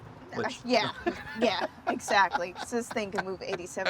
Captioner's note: laughs